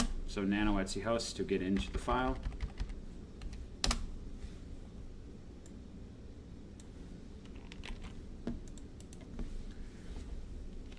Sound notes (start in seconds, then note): 0.0 mouse clicks; 1.7 keyboard typing; 5.8 mouse clicks